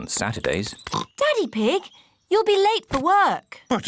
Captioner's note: oinks